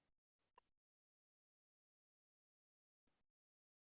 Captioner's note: none